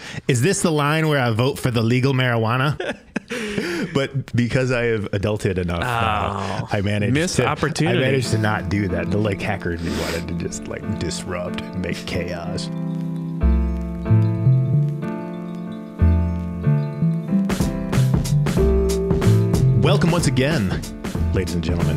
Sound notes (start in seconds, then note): 2.6 all laughing; 13.0 mellow, funky piano music